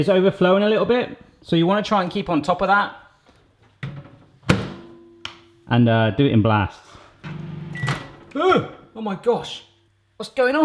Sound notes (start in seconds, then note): 4.4 microwave door closing